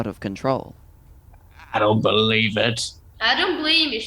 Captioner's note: flatly skeptical